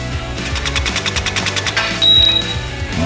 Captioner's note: machine drilling; metal clinking